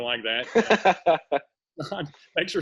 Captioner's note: laughter